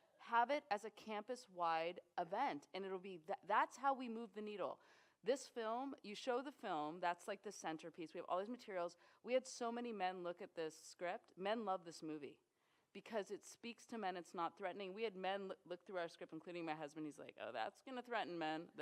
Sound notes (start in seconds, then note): none